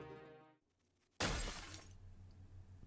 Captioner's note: glass Shattering